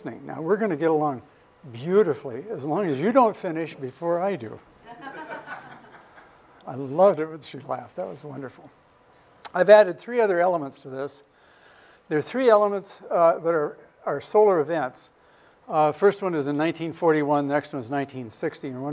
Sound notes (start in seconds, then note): 4.8 laughter